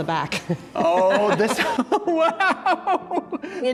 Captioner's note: laughs